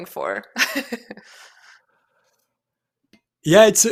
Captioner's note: laughs